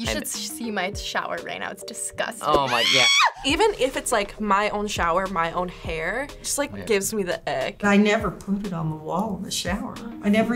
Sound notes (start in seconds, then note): 2.6 woman screams